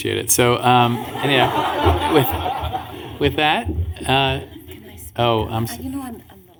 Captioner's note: laughter